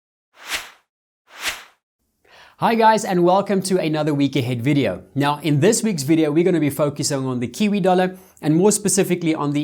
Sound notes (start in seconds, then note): 0.4 air whooshes